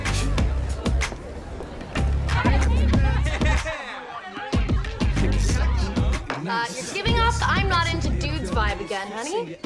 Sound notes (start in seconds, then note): 3.1 people chattering